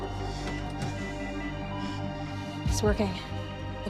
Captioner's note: machine beeping